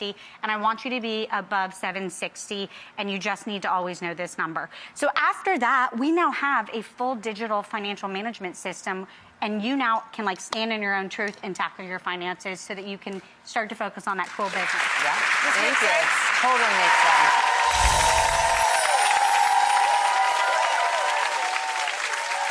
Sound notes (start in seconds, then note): 14.8 applause; 17.3 crowd applauding; 17.3 crowd cheering